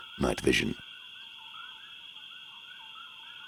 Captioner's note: crickets chirping